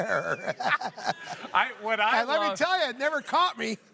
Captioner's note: laughs